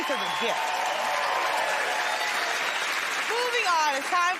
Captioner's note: cheers and applause